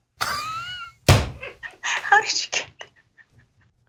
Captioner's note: laugh